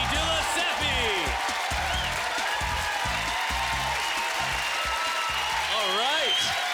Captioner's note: applause